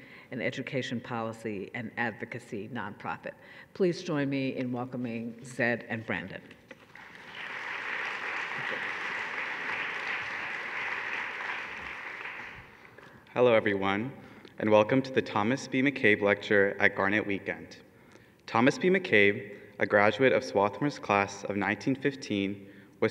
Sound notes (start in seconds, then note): 6.8 audience clapping